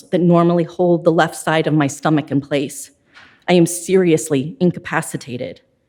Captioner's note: none